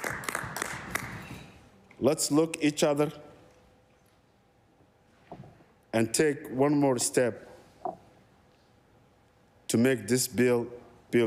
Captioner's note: applause